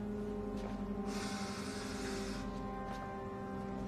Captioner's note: inhaling sharply